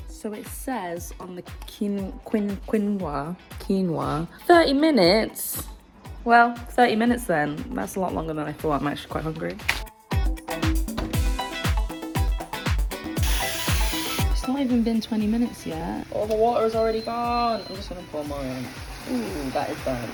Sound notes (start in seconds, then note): 10.0 bright upbeat music; 13.4 water pouring